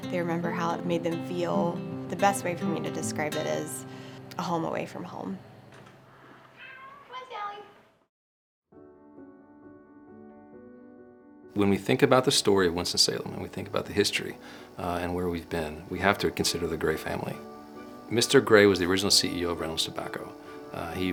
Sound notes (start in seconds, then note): 6.5 Sally meows; 9.0 soft bright music